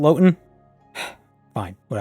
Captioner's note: sigh